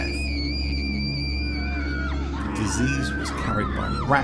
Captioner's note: screaming